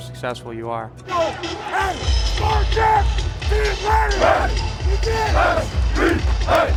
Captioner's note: team cheers